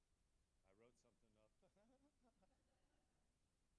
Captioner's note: laughing